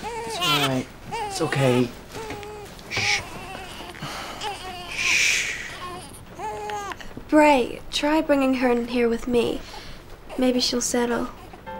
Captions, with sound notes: It's alright - it's okay. Sshh. [Brady's crying quietens] Sshh. [Brady's crying quietens] Bray - try bringing her in here, with me. [Brady coos] Maybe she'll settle. [Brady coos]